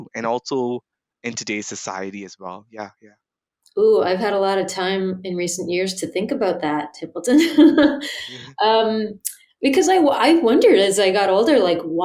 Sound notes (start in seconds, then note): 7.4 laughs